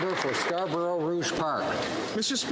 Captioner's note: applause